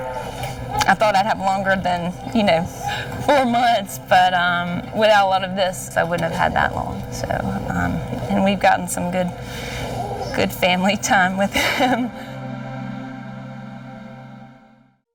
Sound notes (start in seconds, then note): 11.4 chuckles